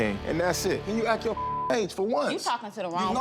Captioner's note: beep